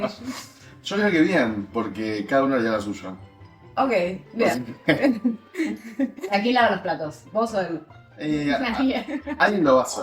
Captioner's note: laughs; laughs